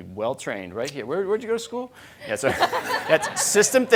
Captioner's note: crowd laughing